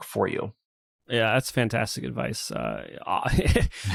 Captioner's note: laughs